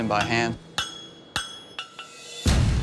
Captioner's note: clanking